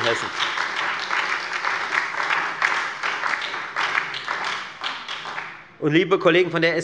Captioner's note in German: Beifall bei der FDP, der SPD und der LINKEN